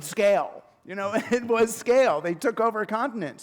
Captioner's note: chuckle